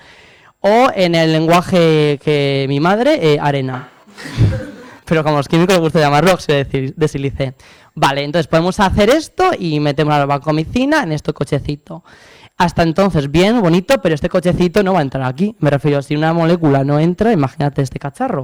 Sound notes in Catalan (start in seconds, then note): 4.2 rialles